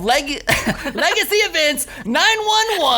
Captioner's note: laughs